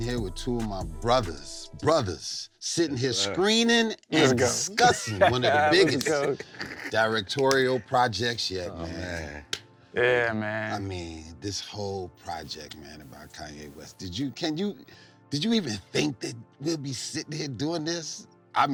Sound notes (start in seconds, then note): 4.6 low chuckling